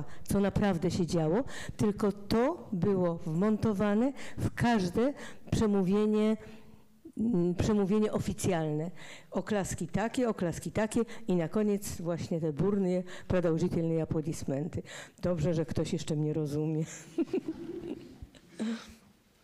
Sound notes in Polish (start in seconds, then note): 13.6 fraza po rosyjsku; 17.0 śmiech